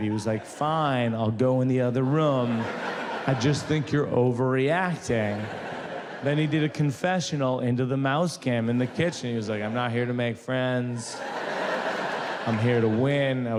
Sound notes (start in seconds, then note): 5.4 audience laughs; 11.1 audience laughs